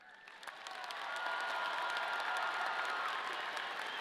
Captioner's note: audience applauding